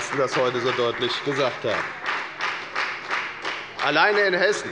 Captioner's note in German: Beifall bei der FDP